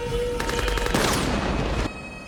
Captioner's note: gunfire